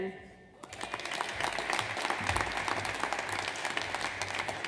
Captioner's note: audience applauds